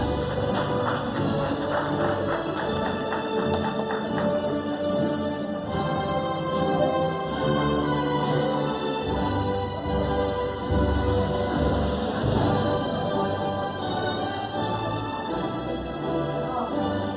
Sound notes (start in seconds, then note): 0.0 audience applauding; 5.5 upbeat music